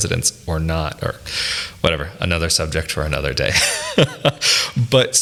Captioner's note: laughs